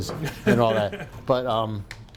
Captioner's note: laughing